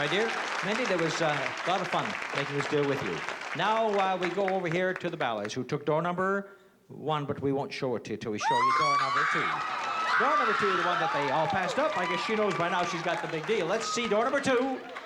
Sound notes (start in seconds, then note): 8.4 screaming; 8.4 cheering